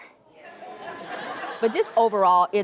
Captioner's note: laughing